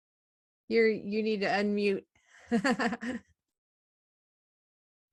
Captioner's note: laughter